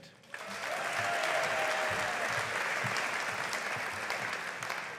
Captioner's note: audience applauding